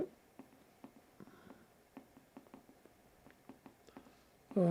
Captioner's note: pauses 8 seconds